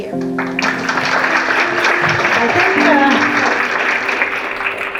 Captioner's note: applause